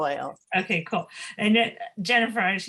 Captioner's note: laughs